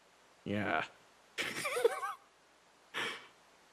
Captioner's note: laughs